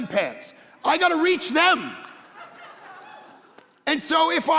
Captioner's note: congregation laughing